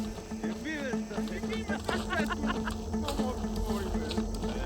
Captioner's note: chattering, laughing